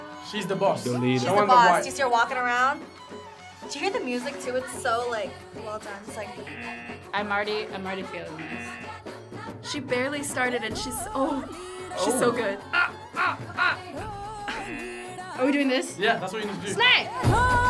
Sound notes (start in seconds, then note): 6.4 buzzer rings; 14.4 laughs